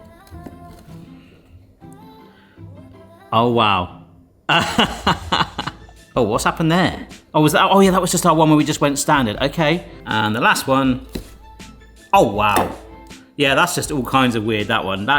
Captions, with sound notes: Oh wow. (laughs) Oh, what's happened there? Oh was that, oh yeah, that was just our one where we just went standard. Okay. And the last one. Oh wow. Yeah, that's just all kinds of weird, that one.